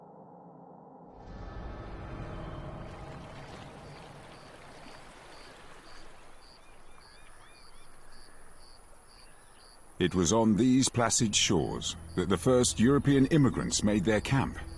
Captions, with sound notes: (water running) (birds chirping) It was on these placid shores that the first European immigrants made their camp at the end of the 19th century.